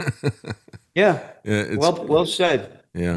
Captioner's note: laughs